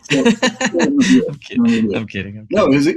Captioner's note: laugh